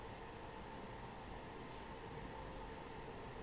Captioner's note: none